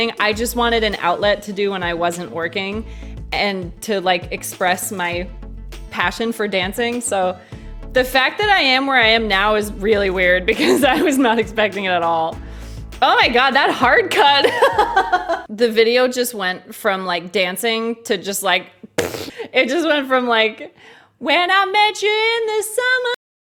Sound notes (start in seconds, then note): 14.3 laughs